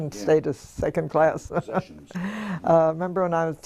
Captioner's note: laugh